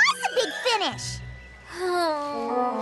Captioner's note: moan